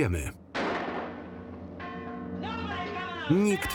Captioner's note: gun firing